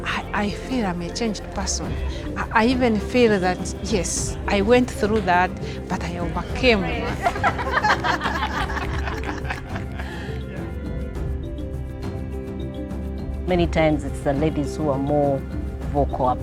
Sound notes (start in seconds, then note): 7.8 laughing